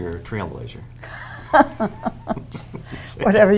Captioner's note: chuckling